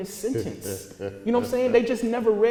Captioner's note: laughing